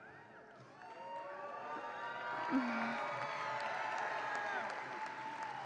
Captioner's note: audience applauds and cheers